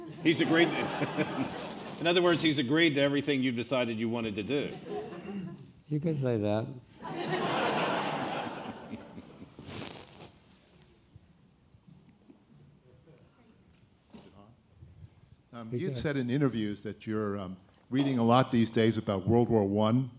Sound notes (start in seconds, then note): 7.8 laughing